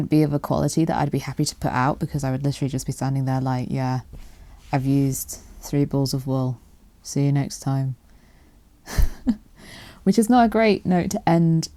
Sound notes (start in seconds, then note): 3.9 monotone voice; 8.9 laughs